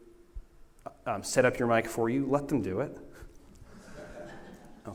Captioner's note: laughter